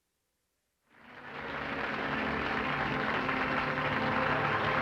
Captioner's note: applause